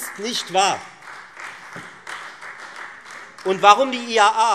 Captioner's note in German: Beifall Freie Demokraten